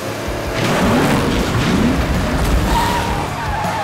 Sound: engines revving

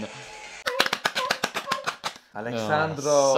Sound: clapping

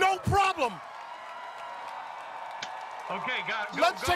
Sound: cheers and applause

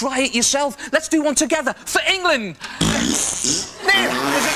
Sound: Both Ant and Neil fart awkwardly

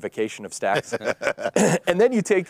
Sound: presenters laughing

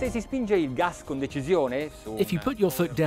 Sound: soft music; speaking in foreign language

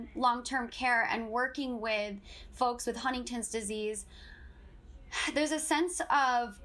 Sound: exhales

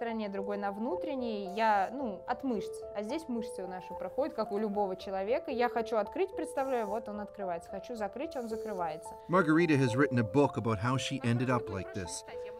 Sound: speaking russian

